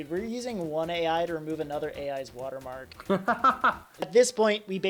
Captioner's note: laughs